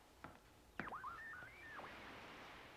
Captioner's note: berkedip statis